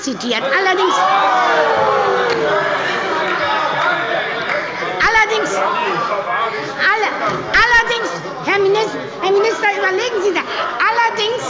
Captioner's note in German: Lebhafte Zurufe: Oh!